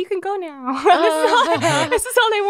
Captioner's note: laughs